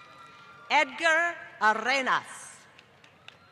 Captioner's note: applause